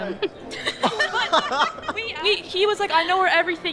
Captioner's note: laughing